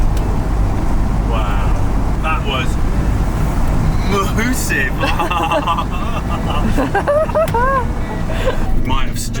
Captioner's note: laughing